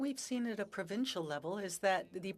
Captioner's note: speaking French